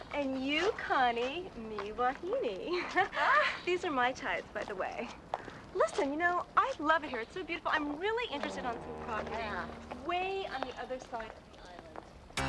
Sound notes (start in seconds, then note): 2.8 ladies laughing